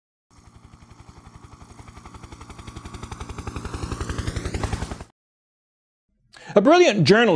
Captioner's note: helicopter in flight